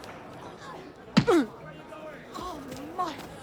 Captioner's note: brubaker groaning